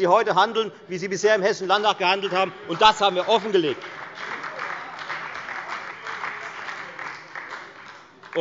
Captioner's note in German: Beifall bei der FDP, der SPD und der LINKEN